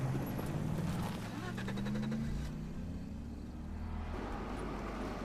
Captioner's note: engine starting